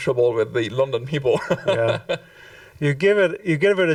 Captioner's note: chuckles